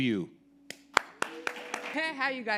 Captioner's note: audience applauding